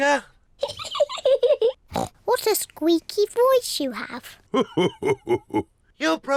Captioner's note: laughs